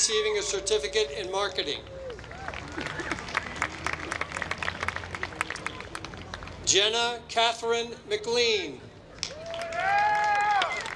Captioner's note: applause